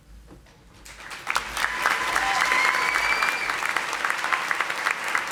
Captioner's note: audience applauding